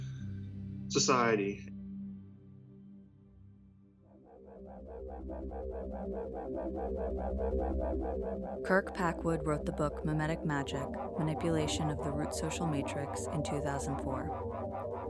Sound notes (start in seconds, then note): 3.9 oscillating tones